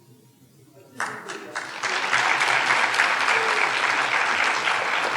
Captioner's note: audience applauding